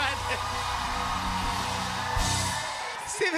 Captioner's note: cheers and applause